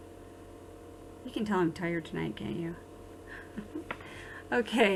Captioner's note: chuckles